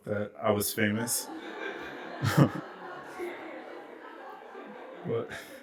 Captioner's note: laughter